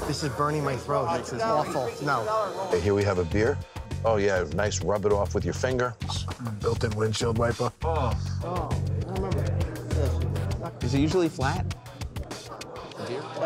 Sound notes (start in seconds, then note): 6.2 groans